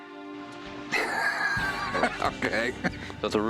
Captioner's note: laughs